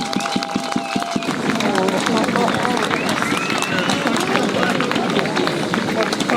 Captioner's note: applause